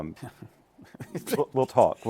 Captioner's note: laughs